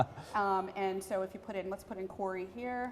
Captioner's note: laugh